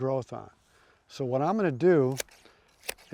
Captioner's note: clippers snipping